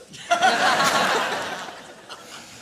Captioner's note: laughter